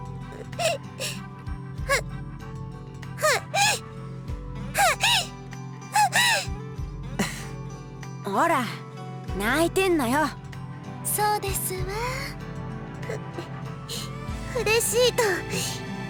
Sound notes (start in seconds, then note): 5.9 sympathetic sigh